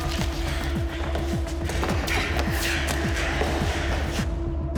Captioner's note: footsteps running